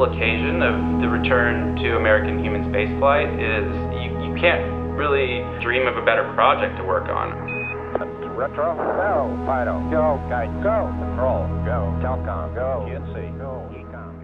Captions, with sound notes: of the return to American human Space flight is you can't really dream of a better project to work on. (radio commands)